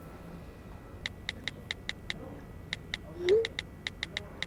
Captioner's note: phone texting